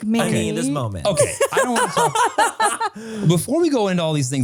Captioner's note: laugh